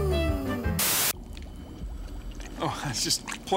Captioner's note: liquid bubbling